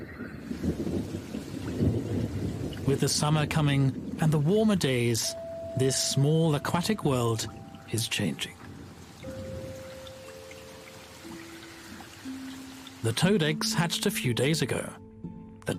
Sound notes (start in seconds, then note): 0.5 rain tapping; 9.1 gentle music